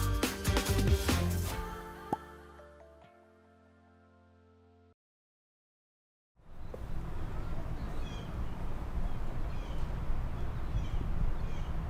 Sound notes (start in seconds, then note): 6.5 birds chirping